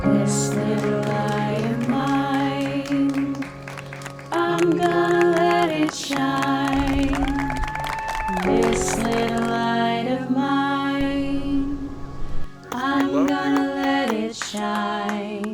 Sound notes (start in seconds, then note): 1.4 clapping; 6.0 clapping; 6.6 applause